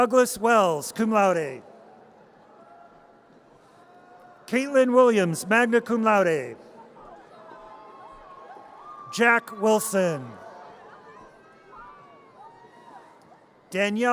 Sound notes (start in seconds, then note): 2.1 audience cheers; 7.7 audience cheers